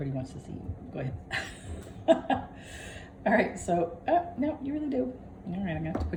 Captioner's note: laughter